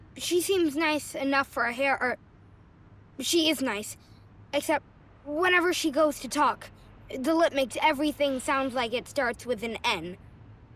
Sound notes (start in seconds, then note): none